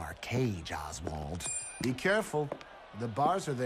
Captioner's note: coin clinks